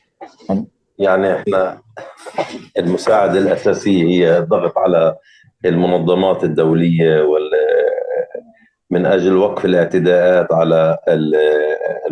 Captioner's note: speaking arabic